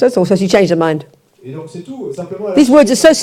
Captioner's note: audience member speaks in French